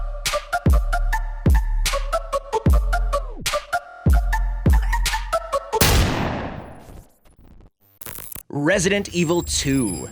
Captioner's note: science noises